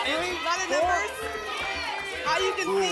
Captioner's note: audience shouting numbers